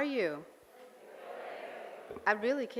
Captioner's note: audience murmurs